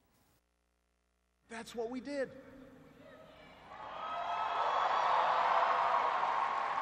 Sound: cheers and applause

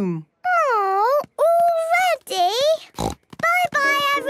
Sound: snort

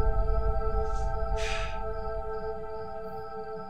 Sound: sighs

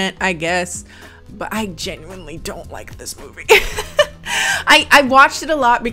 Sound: laughs

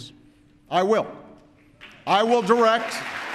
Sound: applause

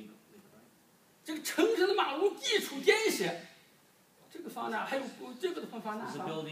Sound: speaking foreign language

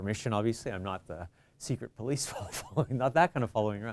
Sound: chuckles

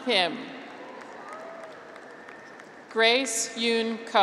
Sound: graduates cheer

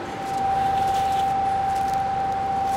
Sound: high machine whirring

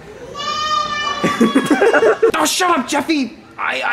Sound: film crew laughing; kid yelling

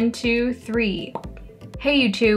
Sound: really small popping noise

